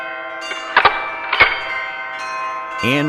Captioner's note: gun noise